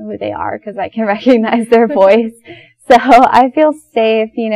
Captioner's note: laughing